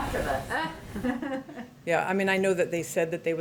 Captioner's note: laughs